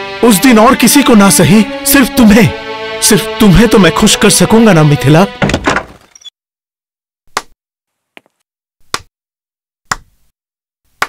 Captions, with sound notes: ..forget everyone else. You.. I will be able to make you happy, Mithila. [Door opens] [Claps hands]